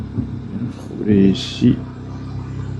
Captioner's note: engine